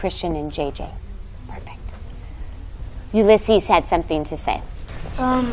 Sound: whispers

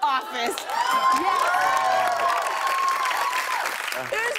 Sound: cheers and applause

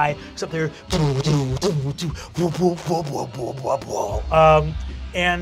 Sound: imitates loud bass music

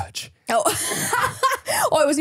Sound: laughs

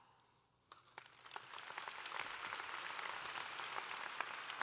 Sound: applause

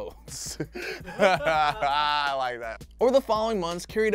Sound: laughs

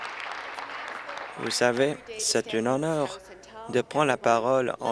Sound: applause

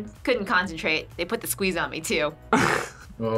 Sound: laughs

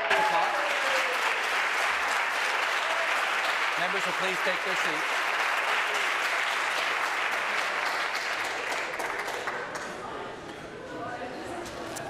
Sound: applause

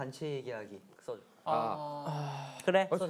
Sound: deep sigh

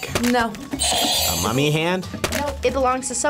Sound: buzzer rings

